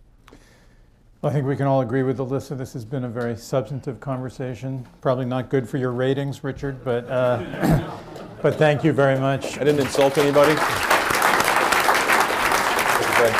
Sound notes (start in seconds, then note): 7.0 laughter; 8.4 applause; 10.0 laughter